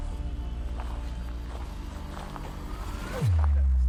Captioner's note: footsteps